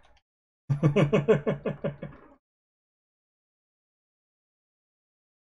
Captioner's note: chuckles